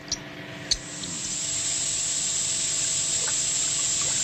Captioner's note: bubbling; hissing